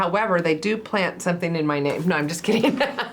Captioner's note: laughs